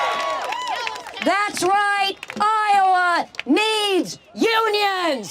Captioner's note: crowd cheers